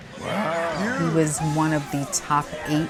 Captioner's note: supporters cheering